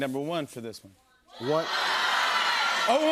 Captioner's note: audience shouting